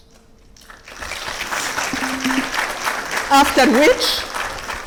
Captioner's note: audience clapping